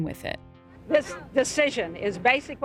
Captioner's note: soundbite of archived recording